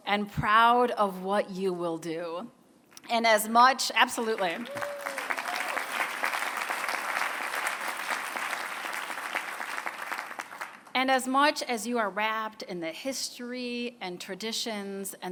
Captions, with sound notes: and proud of what you will do. And as much-- absolutely. [APPLAUSE] And as much as you are wrapped in the history, and traditions,